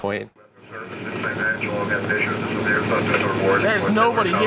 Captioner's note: radio chattering